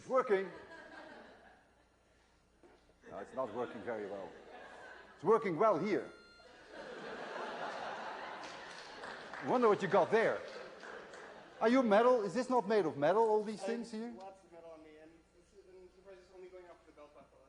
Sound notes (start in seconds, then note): 6.6 laughter